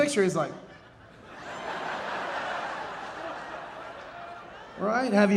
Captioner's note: audience laughing